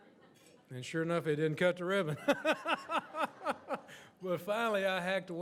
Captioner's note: laughs